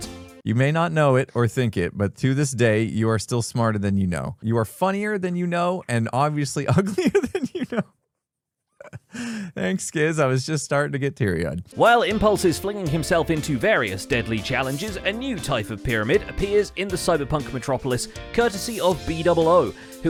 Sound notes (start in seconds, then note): 6.8 laughs